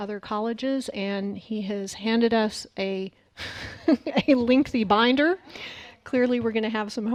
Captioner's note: laughs